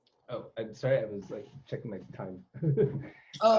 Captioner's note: laugh